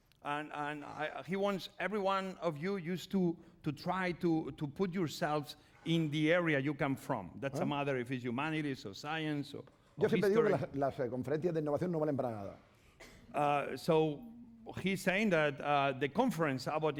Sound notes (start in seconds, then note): 11.2 speaking spanish